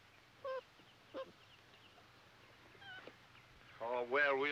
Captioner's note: dog whining